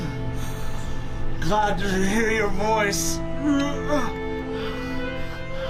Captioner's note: groaning